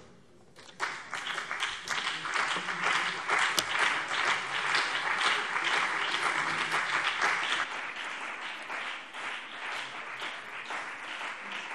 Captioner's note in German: Anhaltender Beifall BÜNDNIS 90/DIE GRÜNEN und vereinzelt CDU